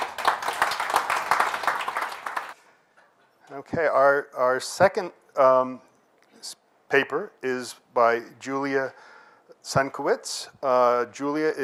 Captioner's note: applause